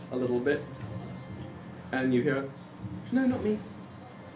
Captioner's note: none